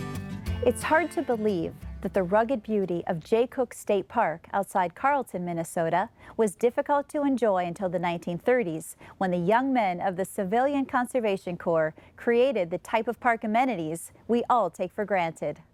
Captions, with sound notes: - [Voiceover] It's hard to believe that the rugged beauty of Jay Cooke State Park, outside Carlton, Minnesota, was difficult to enjoy until the 1930s, when the young men of the Civilian Conservation Corps created the type of park amenities we all take for granted.